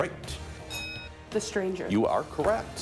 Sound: ding

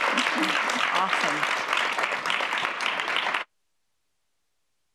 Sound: applause

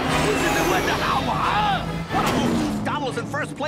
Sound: Pietro yelling

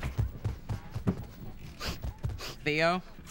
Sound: sniffs

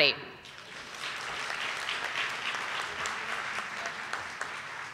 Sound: audience applauding

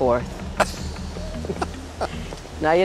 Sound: laughs

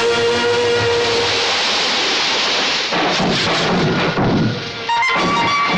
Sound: crackers bursting

